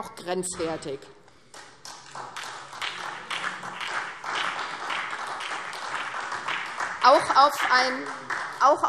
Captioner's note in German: Beifall SDP und vereinzelt DIE LINKE